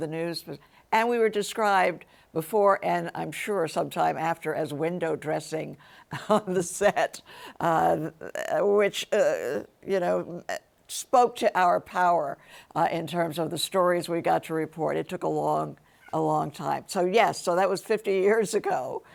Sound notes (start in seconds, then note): 6.4 chuckles